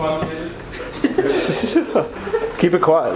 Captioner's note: laughing